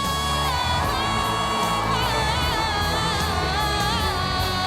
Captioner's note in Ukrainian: оплески